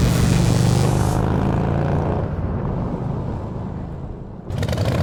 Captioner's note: time travel sounds; motorcycle engine